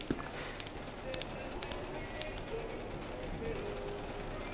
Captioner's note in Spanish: Sonidos de la tijera